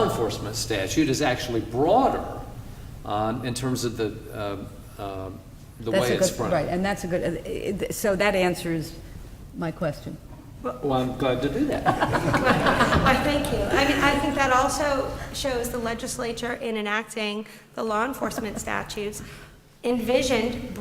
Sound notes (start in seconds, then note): 6.7 laughter